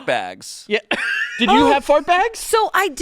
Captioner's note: laughs